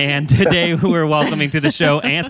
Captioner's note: laughs